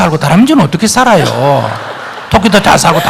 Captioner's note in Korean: 청중 웃음